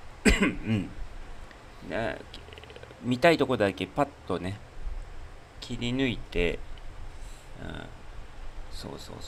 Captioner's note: cough; clears throat